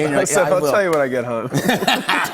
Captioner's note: laughter